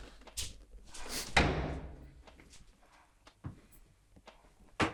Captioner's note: door slamming